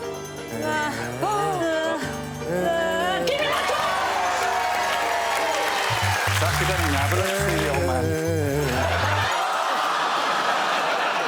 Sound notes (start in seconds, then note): 1.4 Reece groans; 7.4 applause